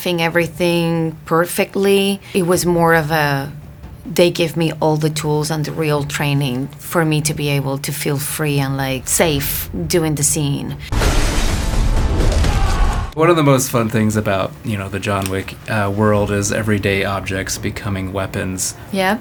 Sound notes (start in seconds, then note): 10.9 glass breaking